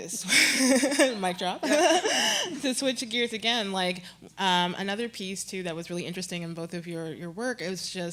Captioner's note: chuckle